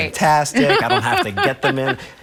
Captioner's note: laughs